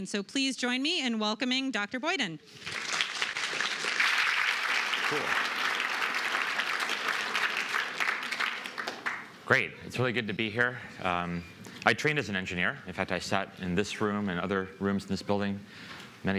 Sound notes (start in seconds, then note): 2.5 applause